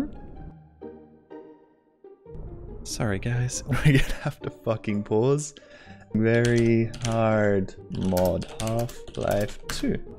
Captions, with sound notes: Sorry guys, *short laugh* we are gonna have to fucking pause VERY HARD MOD HALF-LIFE 2